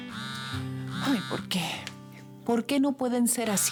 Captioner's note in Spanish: Suena el teléfono